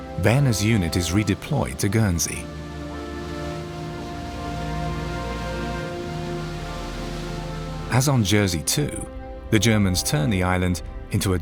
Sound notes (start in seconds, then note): 3.7 waves crashing